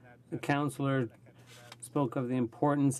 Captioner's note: speaking French